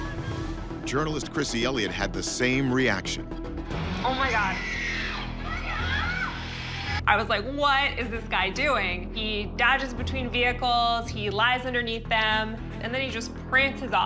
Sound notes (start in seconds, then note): 0.0 horn honking; 4.0 screaming on video